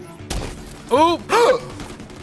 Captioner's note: gasp